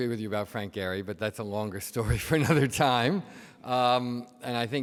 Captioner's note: laughs